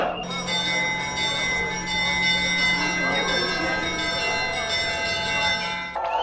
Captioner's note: church bells ringing